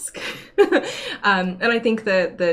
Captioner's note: laughs